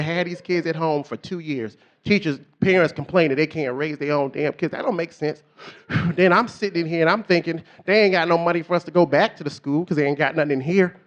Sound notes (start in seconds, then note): 7.5 puffs